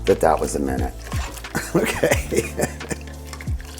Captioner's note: laughs